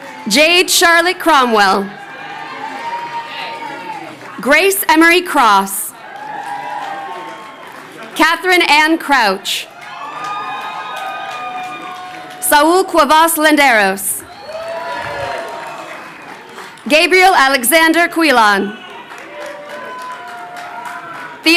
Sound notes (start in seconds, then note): 6.2 crowd cheering; 9.9 crowd cheering; 14.5 crowd cheering; 18.6 audience applauding